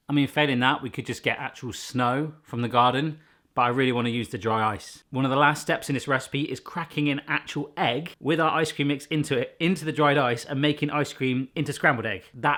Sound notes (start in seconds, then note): none